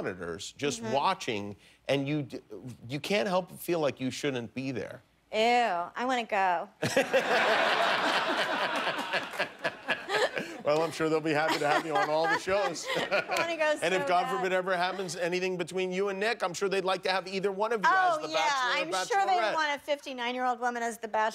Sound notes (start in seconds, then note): 8.9 laughter